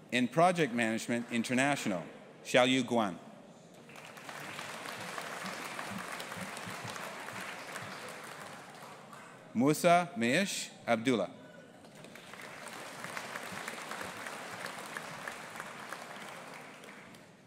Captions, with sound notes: In Project Management International, Xiaoyu Guan. (AUDIENCE APPLAUDING) Moosa Maaish Abdulla. (AUDIENCE APPLAUDING)